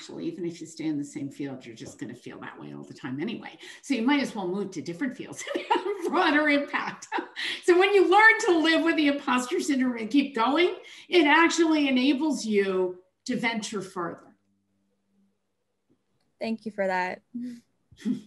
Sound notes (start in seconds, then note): 5.7 chuckles